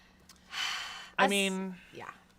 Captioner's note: sighs